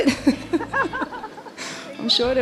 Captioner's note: everyone laughing